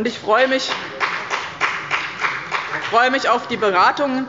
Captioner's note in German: Beifall bei dem BÜNDNIS 90/DIE GRÜNEN und der CDU